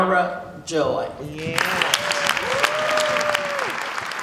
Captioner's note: cheers and applause